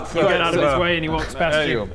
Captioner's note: none